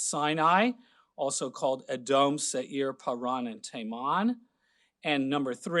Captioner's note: speaking Hebrew